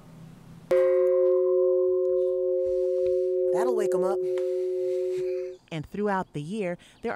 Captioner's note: chime ringing